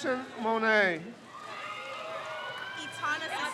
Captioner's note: crowd cheers